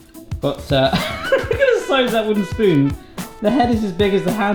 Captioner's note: laughing